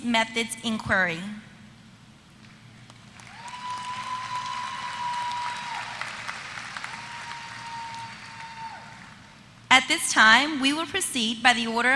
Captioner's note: applause